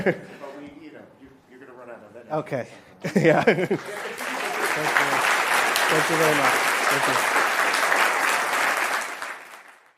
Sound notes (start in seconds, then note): 3.6 applause